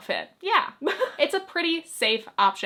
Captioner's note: chuckles